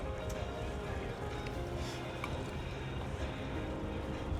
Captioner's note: laughter